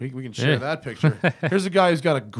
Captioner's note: laughter